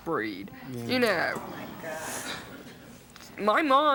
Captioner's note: audience exclaims